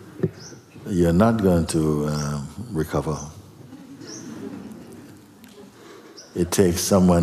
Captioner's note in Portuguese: risos